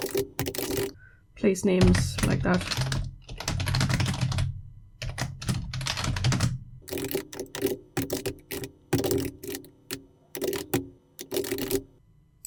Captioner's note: typing